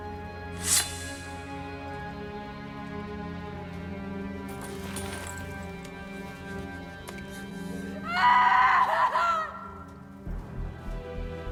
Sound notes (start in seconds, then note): 0.5 sword scraping; 8.0 Cleopatra screaming